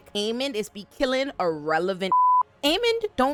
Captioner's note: beep